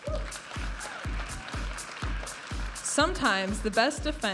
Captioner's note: audience applauding and cheering